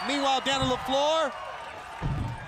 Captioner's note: crowd cheering